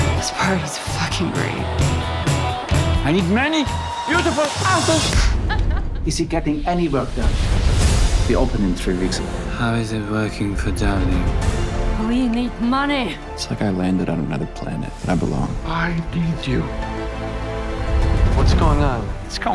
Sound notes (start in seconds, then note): 3.5 clap; 5.2 laughter